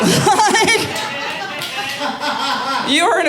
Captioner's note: audience laughing